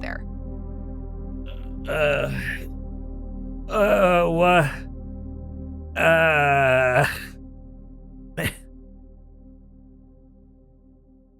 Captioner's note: groans; laughs